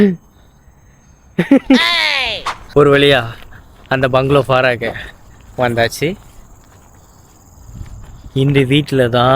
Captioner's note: laughter